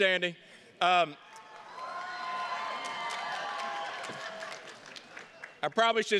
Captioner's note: attendees cheers and claps